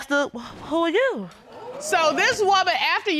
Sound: audience exclaiming

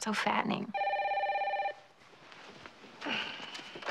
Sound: phone ringing

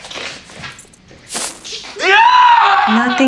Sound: screams

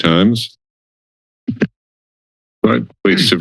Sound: mic thump

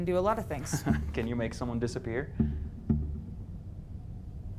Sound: chuckles

